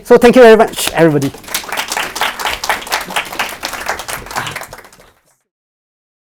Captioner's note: applause